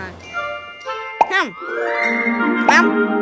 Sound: bubble pops

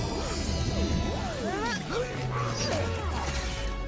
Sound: marcy and killan grunts

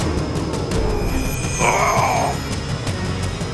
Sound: grunting

